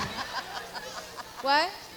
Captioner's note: Kelly laughs; audience laughs; audience members speaking indistinctly